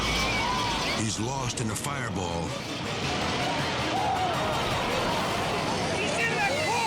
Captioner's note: people screaming